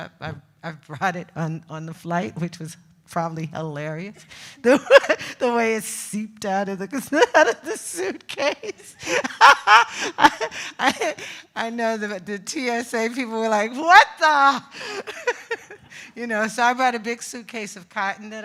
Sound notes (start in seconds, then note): 8.4 laughs